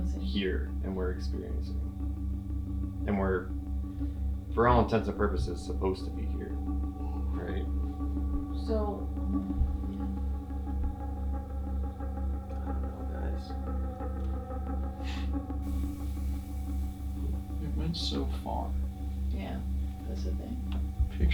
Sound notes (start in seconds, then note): 14.2 laughs